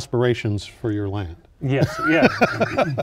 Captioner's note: laughs